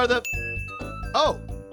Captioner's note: ding